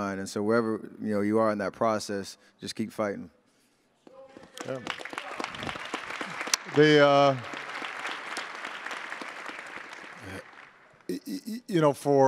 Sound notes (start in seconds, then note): 4.4 attendees applauding